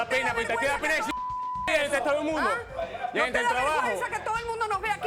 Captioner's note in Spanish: Bip